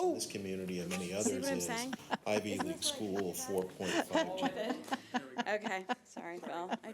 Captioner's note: overlapping chattering